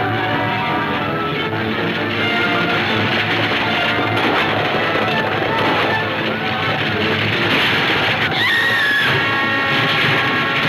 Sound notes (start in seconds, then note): 8.3 Lucy screams